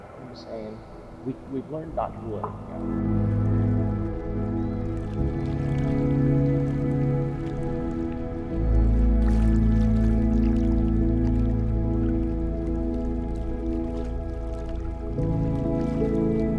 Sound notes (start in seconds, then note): 3.3 gentle music; 4.6 water bubbling